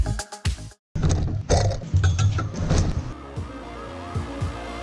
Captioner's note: electronic beats; clanking metal; soft electronic beats